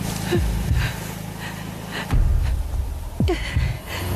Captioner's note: gasps